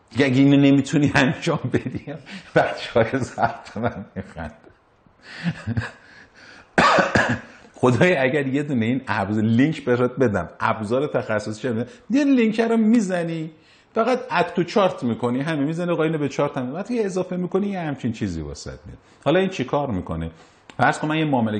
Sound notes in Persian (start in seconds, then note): 5.4 خنده